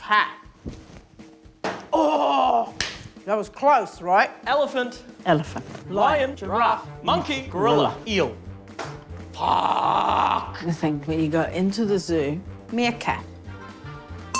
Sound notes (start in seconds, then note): 1.6 thwack!; 8.7 thwack!